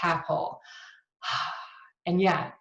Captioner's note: breathes heavily